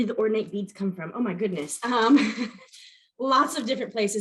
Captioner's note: chuckles